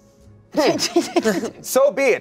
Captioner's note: laughs